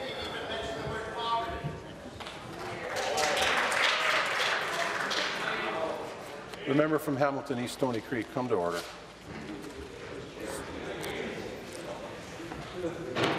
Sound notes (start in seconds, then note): 6.9 applause